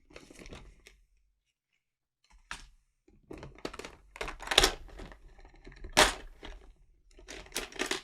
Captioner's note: continued ASMR style-audio of plastic containers and boxes with objects in them